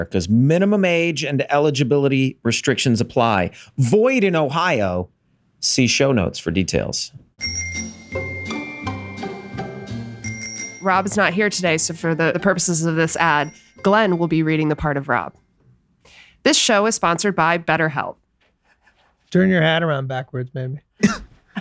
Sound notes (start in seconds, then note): 7.4 bicycle bell ringing; 7.5 cheerful orchestral music